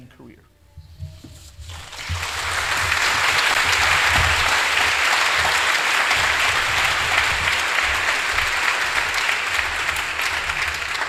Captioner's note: applause